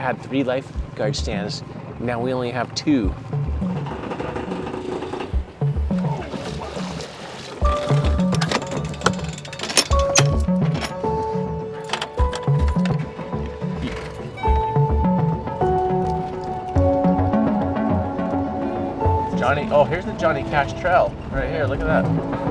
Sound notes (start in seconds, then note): 4.5 contemplative music continues; 9.2 door clatters